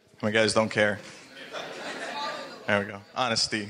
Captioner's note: laughing